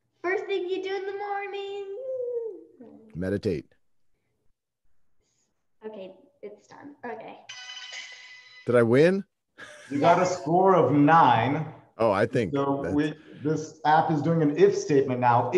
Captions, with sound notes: - First thing you do in the morning. - Meditate. - Okay, it's done, okay. - Did I win (laughs)? - You got a score of nine. - Oh, I think. This app is doing an if statement now.